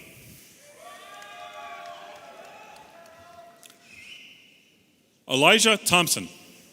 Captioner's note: audience applauding and cheering